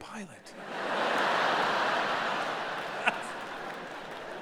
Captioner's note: audience laughing